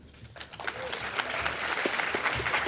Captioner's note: applause